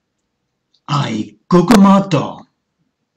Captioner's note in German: hessisch dialektal